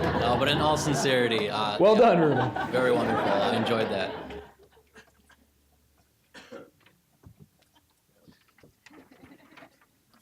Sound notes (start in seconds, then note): 4.1 audience laughing